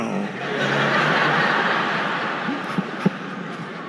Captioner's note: audience laughing